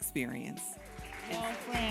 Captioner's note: applause